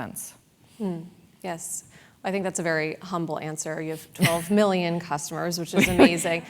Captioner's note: laugh